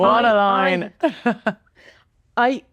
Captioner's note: laughing